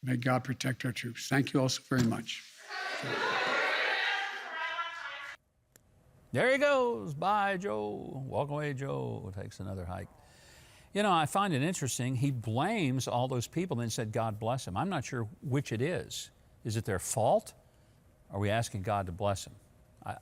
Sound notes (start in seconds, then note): 2.7 reporters yelling